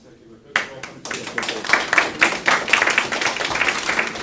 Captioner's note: applause